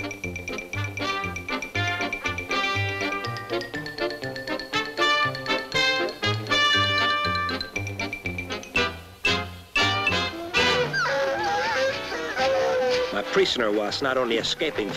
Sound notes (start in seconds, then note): 10.2 dogs sniffing and howling